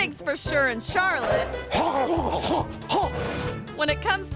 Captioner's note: panting and gasping